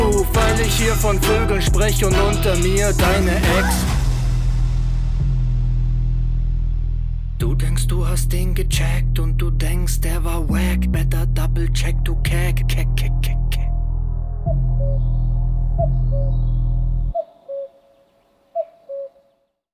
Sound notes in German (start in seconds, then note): 14.4 Kuckuck! Kuckuck! Kuckuck! Kuckuck!